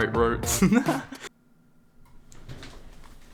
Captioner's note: chuckles; sound of disappointment